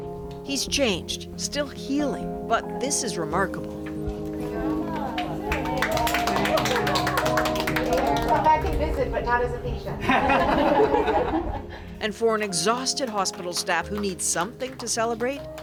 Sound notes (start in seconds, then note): 4.2 crowd cheers, applauds; 10.0 laughter